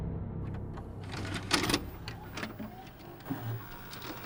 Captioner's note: sound of VCR starting up